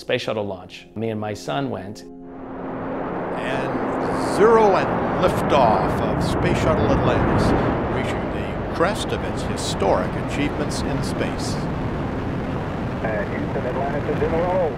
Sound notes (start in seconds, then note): 3.5 roaring sound of engines as rocket takes off; 9.7 male voice from ground control; 12.3 sounds of rocket engine continue